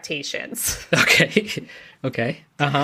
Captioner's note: laughs